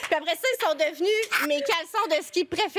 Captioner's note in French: rires